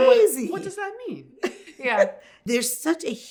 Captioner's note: laughs